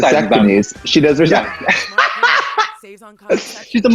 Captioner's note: laughs